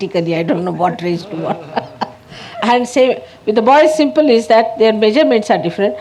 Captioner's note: Shri Mataji laughing